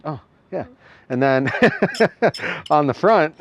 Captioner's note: laughs